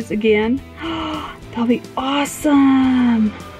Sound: gasps

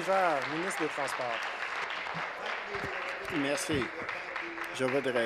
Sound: applause

